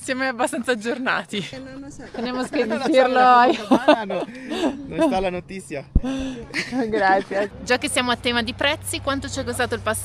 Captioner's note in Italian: risate